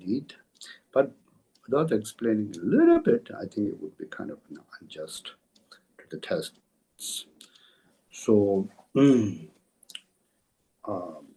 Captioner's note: tibetan